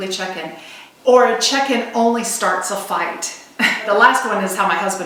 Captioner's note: laughs